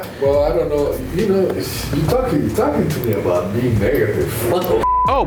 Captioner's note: beep